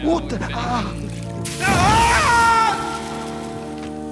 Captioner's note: screaming